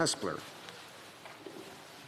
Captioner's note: speaking French